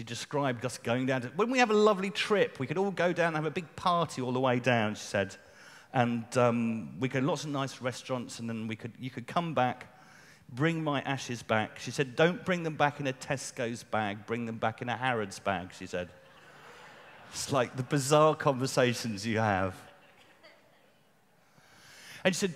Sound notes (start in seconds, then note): 16.1 laughter